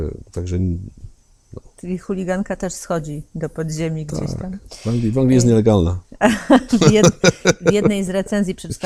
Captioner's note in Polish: śmiech